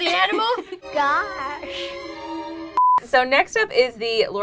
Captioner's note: beep